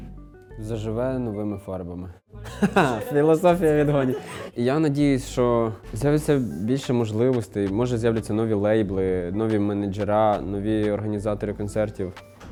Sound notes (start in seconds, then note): 3.7 laughs